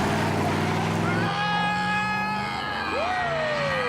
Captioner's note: yelling